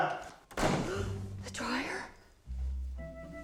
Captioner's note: gasps